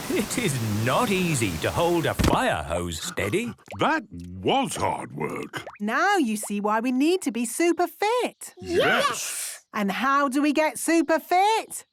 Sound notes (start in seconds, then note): 3.9 panting